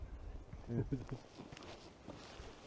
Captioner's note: laughs